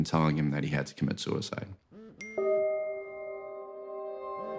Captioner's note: dinging